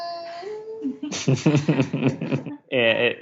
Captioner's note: the adults laugh